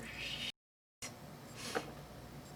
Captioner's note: sniffs